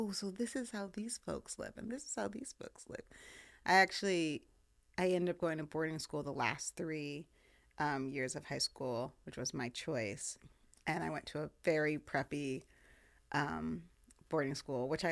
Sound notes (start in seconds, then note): none